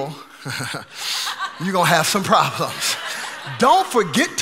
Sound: chuckling

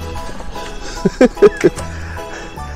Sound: laughs

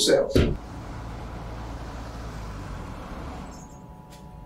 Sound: traffic humming

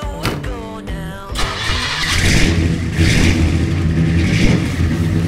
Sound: engine revs

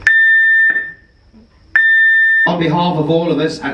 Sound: alarm sounds

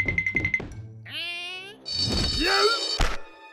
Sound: alarm ringing

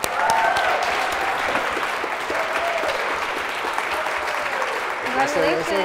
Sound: applause

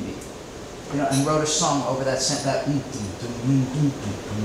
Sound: humming

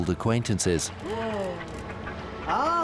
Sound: whale cries

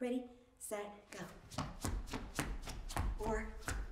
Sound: shoes squeaking

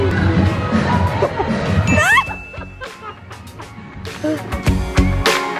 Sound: laughter; upbeat music

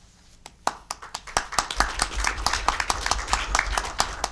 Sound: audience applauding

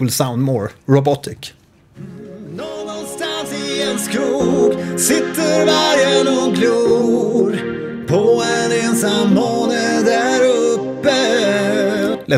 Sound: vocoder with 8 bands...sounds a bit harsh

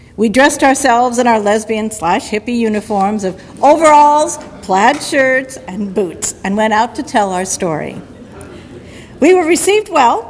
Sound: audience laughter

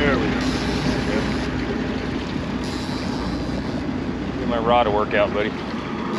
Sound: reel cranking

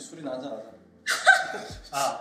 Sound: laughs

